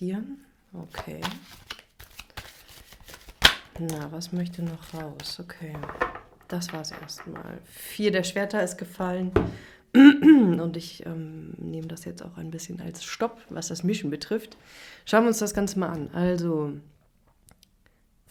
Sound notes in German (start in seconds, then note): 10.0 räuspern